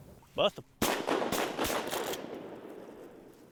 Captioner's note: rifle bangs repeatedly